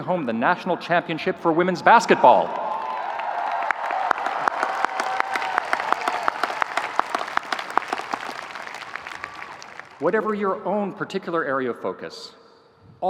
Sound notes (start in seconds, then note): 2.0 audience cheering; 2.5 audience applauding